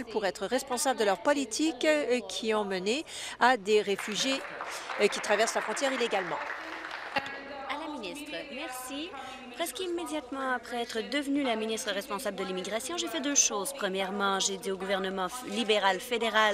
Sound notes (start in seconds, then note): 6.9 applause